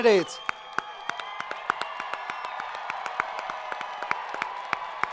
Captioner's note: students cheering